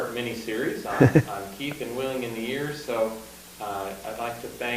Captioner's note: laughs